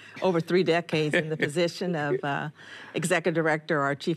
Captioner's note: chuckles